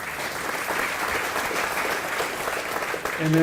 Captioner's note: applause